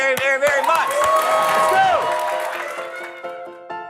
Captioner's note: crowd cheering